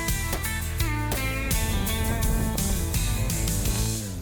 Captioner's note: gun firing